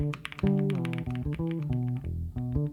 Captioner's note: keyboard typing